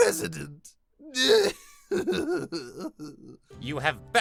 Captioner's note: cries